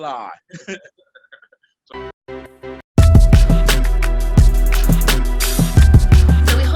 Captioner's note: people laugh; upbeat music